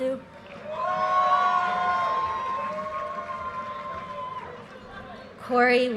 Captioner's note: audience cheers and applause